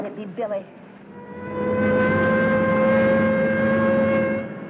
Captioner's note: siren wailing